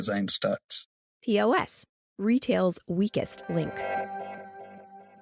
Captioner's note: transition sound